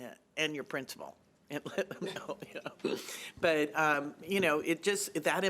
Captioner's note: chuckling